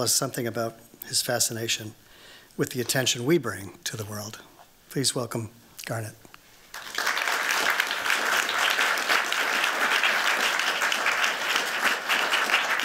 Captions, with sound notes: something about his fascination with the attention we bring to the world. Please welcome Garnette. [APPLAUSE]